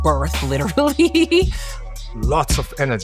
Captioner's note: laughs